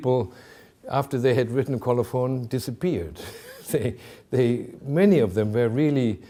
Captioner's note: chuckling